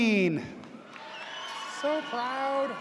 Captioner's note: audience cheers